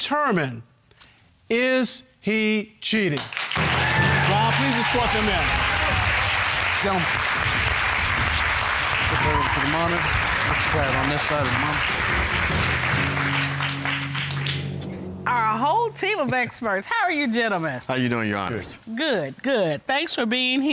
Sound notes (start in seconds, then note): 4.0 audience applauding